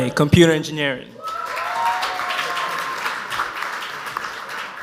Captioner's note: audience applauds